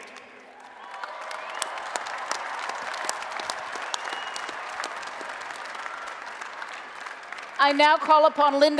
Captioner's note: applause and Cheering